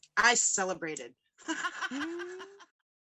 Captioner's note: laughs